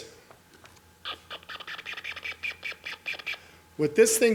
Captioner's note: gadget noise